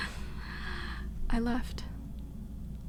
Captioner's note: she laughs